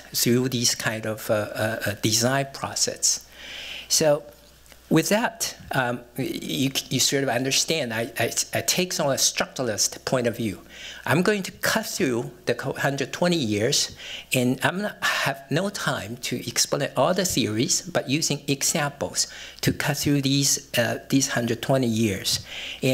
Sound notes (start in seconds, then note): none